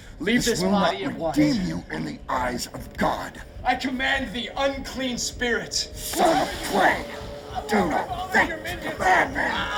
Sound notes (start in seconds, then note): 7.0 Thomas shouting